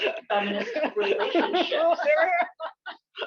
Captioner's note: laughter